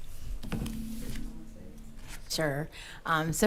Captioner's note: quietly